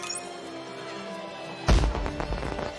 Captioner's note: hyuuuuuuu~.....BOOM!